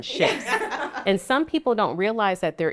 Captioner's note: laughs